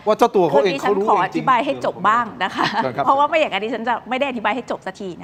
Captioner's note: laughs